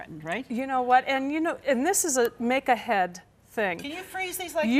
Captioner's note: none